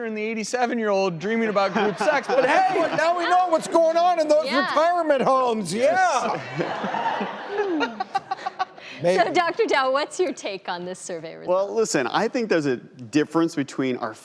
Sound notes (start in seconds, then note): 7.9 laughs